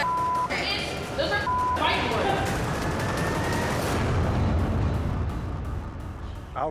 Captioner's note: beep